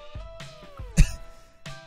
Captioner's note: lil' cough